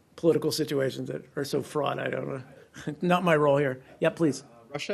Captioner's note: laughter